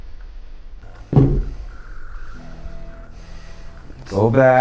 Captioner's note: head thudding